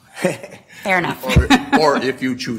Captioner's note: laughter